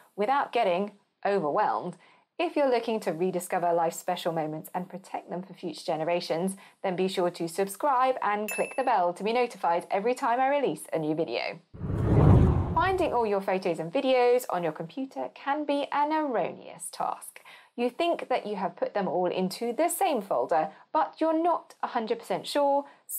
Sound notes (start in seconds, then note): 11.7 whooshing